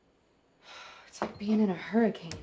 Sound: sighs

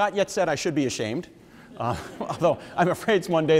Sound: audience members laugh

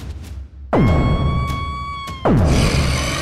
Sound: Peach screams

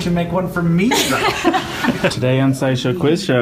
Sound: laughing

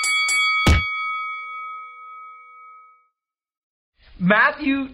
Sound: ding, ding, ding

